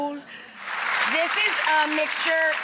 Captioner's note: audience claps